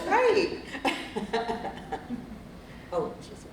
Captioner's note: laughter